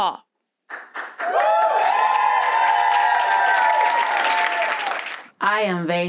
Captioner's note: cheers and applause